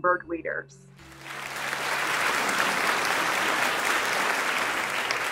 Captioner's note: audience clapping